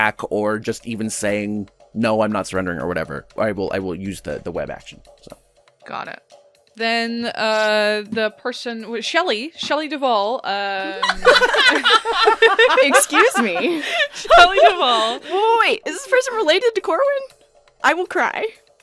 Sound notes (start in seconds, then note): 10.8 laughter